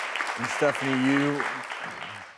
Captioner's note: audience applauding